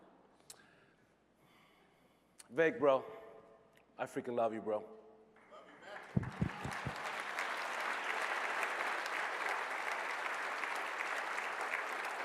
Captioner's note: applause